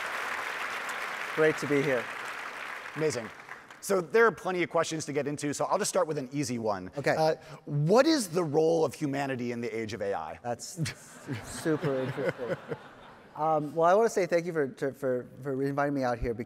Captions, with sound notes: (audience applauding) Great to be here. - Amazing. So, there are plenty of questions to get into, so I'll just start with an easy one. - Okay. - What is the role of humanity in the age of AI? - That's super interesting. (all laughing) Well, I wanna say thank you for inviting me out here